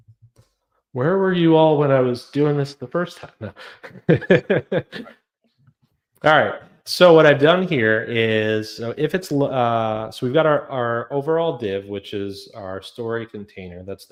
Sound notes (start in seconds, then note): 3.3 laughs